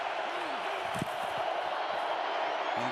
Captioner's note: crowd cheering